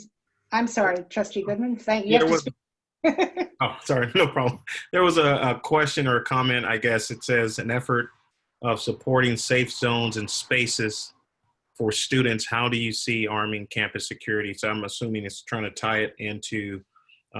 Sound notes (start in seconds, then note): 3.1 laughter